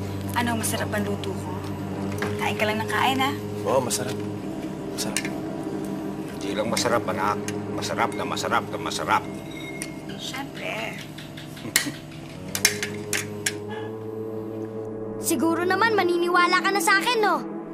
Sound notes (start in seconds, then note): 11.5 Ikong chuckles; 12.5 utensils clanking